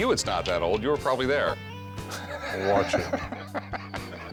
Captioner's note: laughter